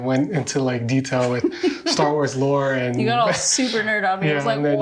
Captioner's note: laughs